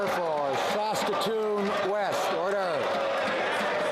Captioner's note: some Applause